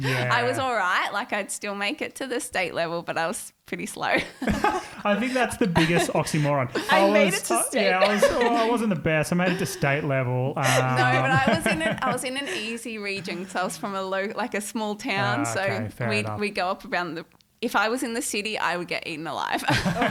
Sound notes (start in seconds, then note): 4.4 all giggling